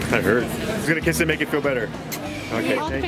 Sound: kiss noise

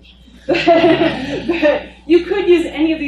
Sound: laughing

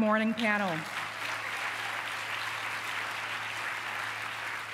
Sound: applause

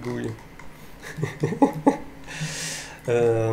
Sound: laughs nervously

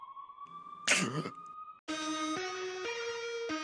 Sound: sharp gasp

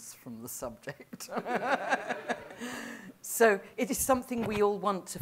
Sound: laughter

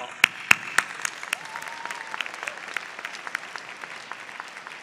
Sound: applause

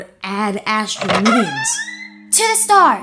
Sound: door creaks opens, closes

